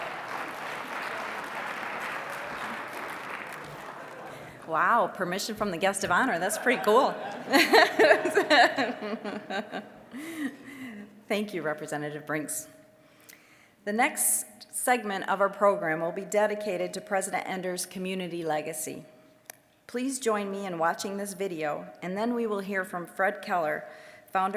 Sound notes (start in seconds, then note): 0.0 applause; 6.3 all laughing